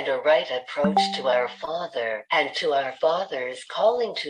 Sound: chat notification sound

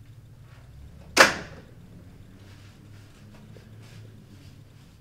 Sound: telephone thudding

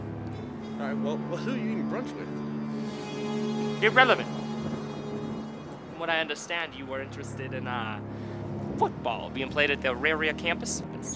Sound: exhales

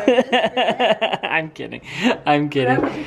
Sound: laughing

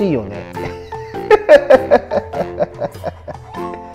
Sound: laughter

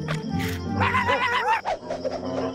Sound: barking; hat whooshes

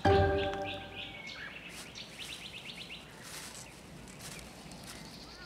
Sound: birds chirping

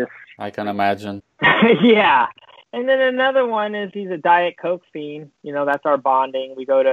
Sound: laughs

